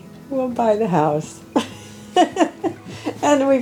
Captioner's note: laughing